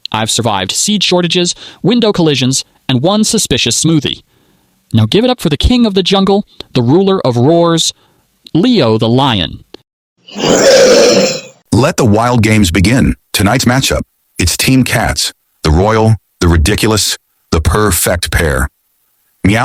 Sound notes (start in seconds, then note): 10.3 lion roar